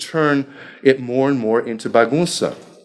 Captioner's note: speaking foreign language